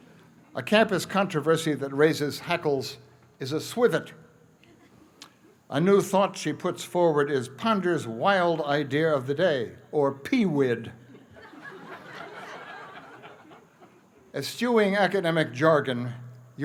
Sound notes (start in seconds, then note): 11.1 laughter